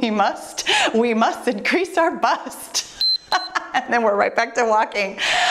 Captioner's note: timer beeps and laughing